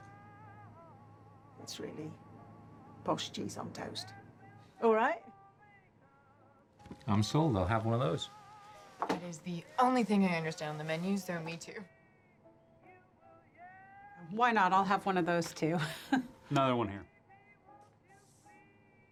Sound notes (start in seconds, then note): 15.8 laughs